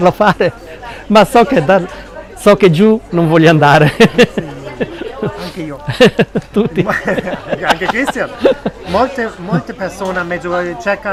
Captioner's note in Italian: risate